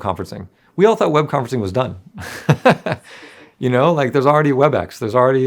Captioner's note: laughs